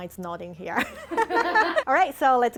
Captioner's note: people laughing